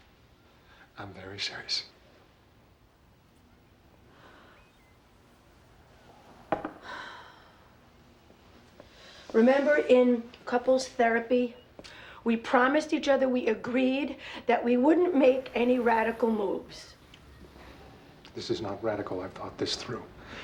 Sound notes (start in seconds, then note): 6.6 claire sighs